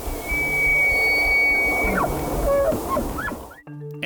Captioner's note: elk bugling